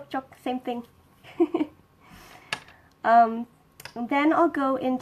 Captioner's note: giggles